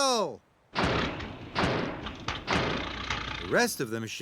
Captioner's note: backfiring